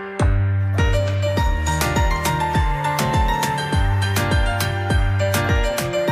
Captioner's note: whoo